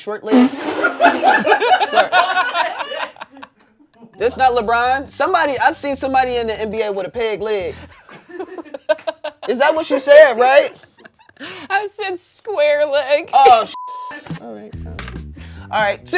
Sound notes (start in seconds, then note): 0.7 and crew laugh; 7.7 laughs; 13.7 beep